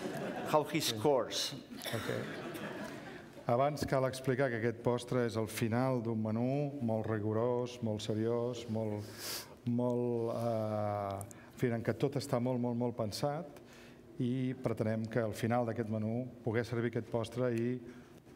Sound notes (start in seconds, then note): 1.8 laughter; 7.1 speaking catalan